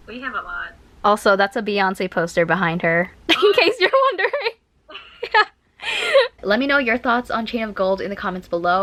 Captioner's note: laughs